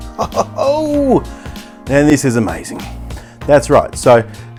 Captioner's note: laughs